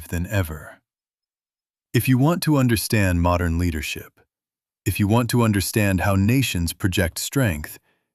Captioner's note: thoughtful